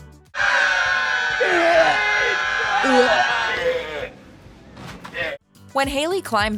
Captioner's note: screaming and retching